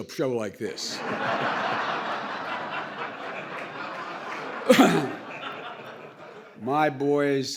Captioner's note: laughter